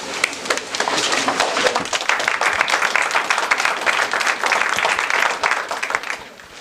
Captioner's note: applause